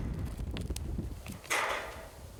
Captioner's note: metal clanking